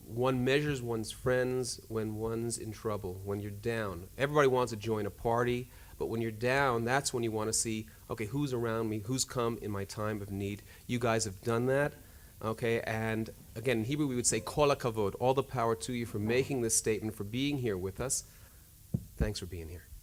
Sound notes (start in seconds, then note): 15.0 speaking hebrew